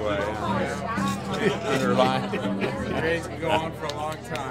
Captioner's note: laughing